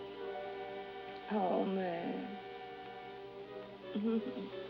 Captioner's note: laughs